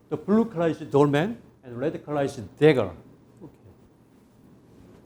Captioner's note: speaking in Korean